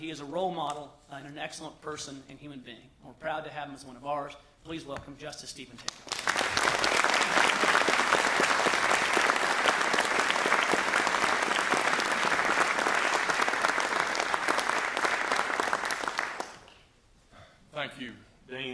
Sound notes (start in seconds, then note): 12.6 applause